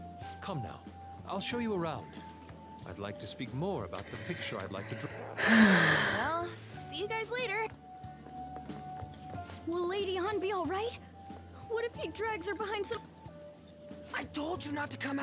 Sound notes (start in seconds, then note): 4.9 sigh